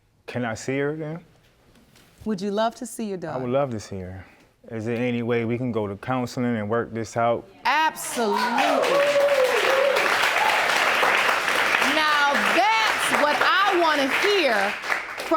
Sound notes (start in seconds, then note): 9.8 audience cheering